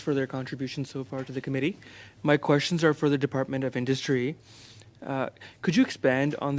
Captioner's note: speaking French